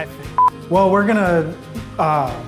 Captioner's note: audio beeps